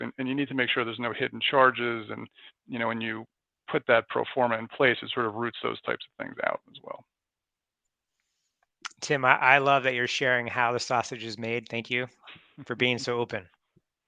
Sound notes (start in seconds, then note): 12.2 laughs